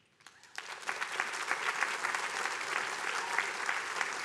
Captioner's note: attendees applauding